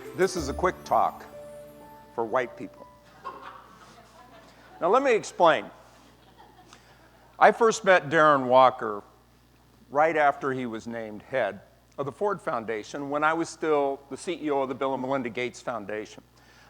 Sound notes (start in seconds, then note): 3.0 laughter